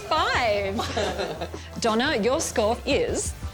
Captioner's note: laughs